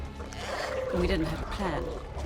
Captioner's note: aliens squirming